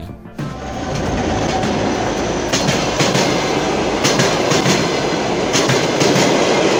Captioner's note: train noise